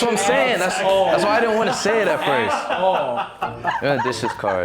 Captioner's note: all laughing